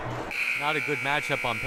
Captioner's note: buzzer blaring